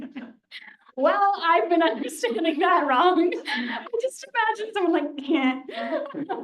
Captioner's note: laughter